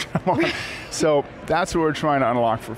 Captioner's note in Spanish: Risas